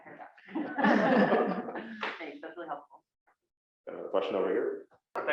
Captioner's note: laugh